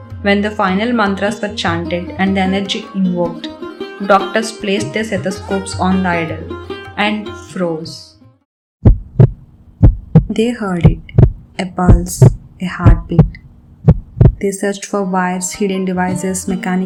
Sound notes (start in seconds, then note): 13.8 heartbeat